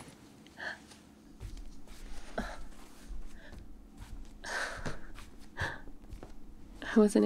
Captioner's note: shuffling; footsteps